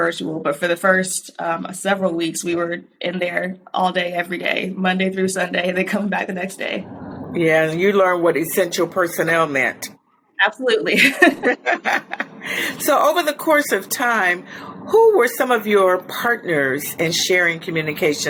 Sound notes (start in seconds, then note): 10.9 chuckles